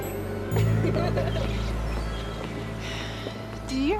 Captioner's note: girls laughing